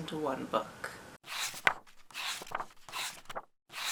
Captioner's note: pages turning